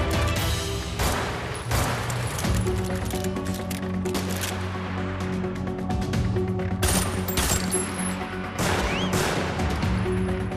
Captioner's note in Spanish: Disparos